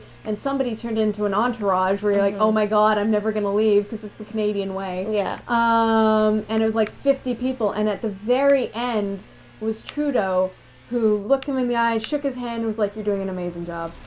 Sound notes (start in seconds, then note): none